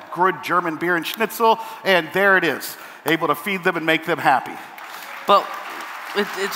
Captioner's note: applause